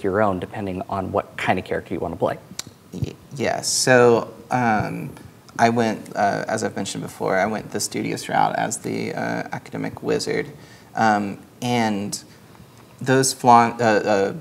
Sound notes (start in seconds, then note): none